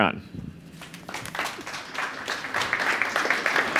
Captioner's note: applause